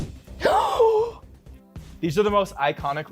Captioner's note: woman gasps